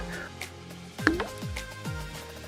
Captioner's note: water drop